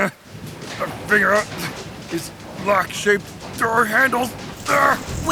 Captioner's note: struggling